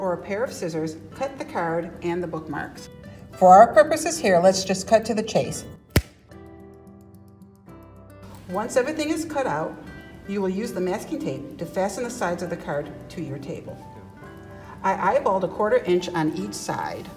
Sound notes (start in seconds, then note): 5.9 finger snap